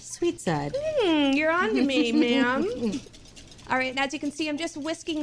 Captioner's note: laughs